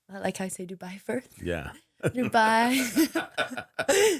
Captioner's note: chuckling